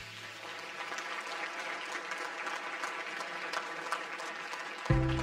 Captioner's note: audience applause